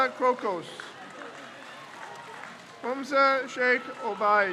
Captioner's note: crowd cheers